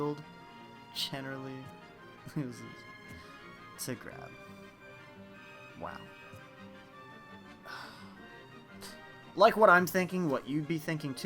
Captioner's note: sigh